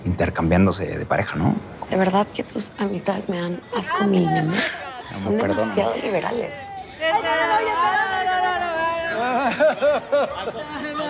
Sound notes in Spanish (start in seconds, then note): 2.2 Risas